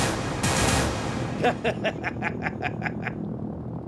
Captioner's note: siren blaring; explosions; laughing